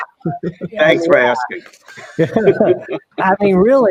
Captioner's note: everyone chuckling